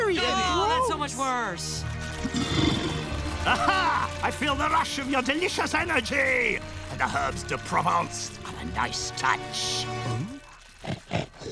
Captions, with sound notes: Oh, that's so much worse! [growling] Ah ha! I feel the rush of your delicious energy. The herbs du provence, a nice touch. Hm? [sniffing, snorting]